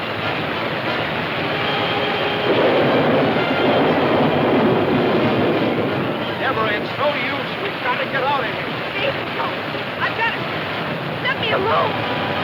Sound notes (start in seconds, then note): 3.5 thunder claps